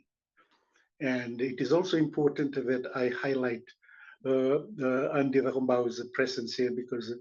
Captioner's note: non-english